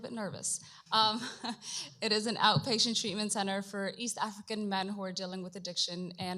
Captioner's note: chuckles